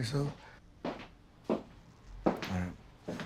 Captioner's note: footsteps approach